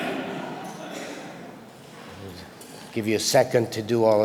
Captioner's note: audience laughter